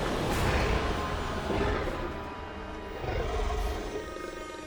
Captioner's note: snarling